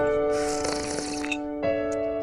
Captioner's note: slurps